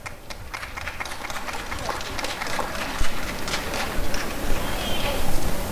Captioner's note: applause and cheering